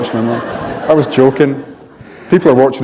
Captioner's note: laughter